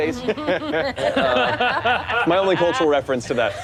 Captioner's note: all laughing